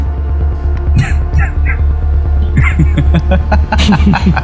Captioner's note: laugh